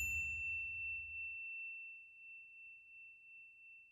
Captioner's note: bell dings